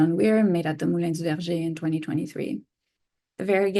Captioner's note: speaks in foreign language